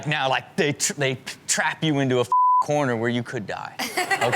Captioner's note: beep